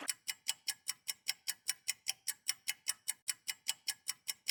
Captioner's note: clock ticking